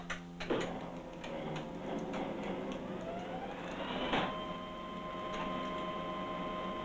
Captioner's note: switches clicking; engine powers up; engine hums